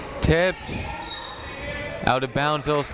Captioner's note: whistle tweeting